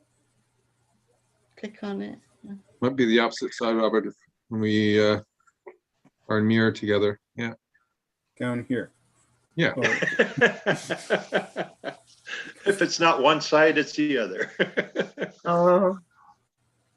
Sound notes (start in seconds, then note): 9.8 laughing